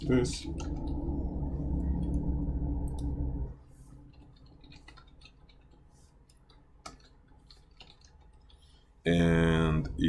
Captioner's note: typing